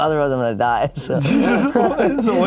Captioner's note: laughs